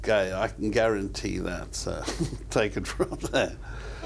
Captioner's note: laughs